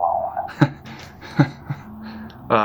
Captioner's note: Ludlow nervously laughs